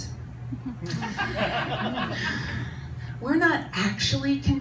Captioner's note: audience laughs